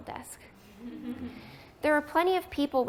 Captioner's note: laughter